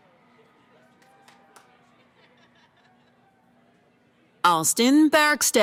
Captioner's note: cheering